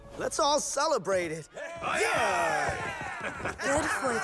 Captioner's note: crew cheers